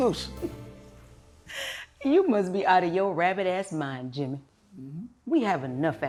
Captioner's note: chuckles